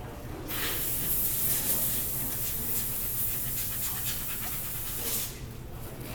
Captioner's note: sounds of air nozzles blowing something off in the near distance